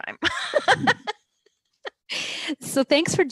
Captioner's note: both laugh